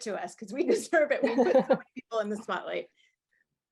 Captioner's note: laughs